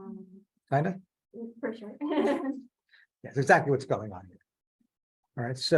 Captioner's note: laughing